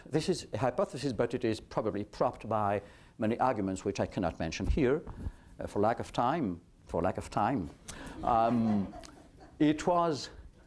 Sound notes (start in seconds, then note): 8.1 laughter